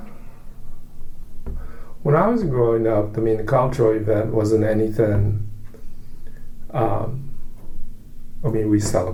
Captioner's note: sighs